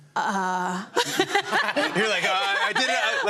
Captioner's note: laughter